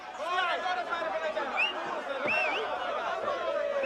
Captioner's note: whistling in crowd